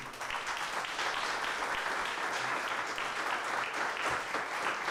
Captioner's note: audience applauding